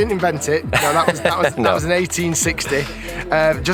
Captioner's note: laughs